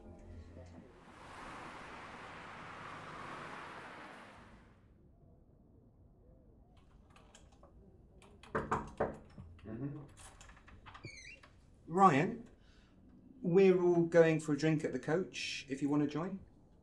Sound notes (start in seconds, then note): 0.0 traffic sounds; 5.2 typing sounds; 8.5 knock on door